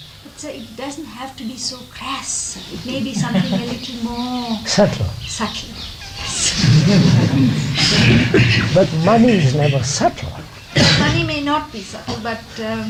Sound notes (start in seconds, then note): 4.6 laughter